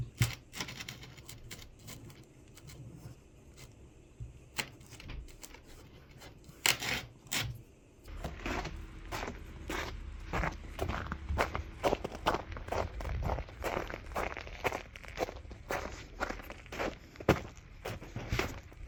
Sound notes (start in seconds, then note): 10.9 crunch crunch crunch